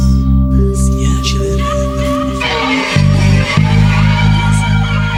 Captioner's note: distorted noises